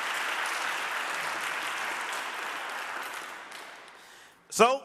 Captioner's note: audience applauding